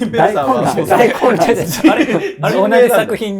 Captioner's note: laughing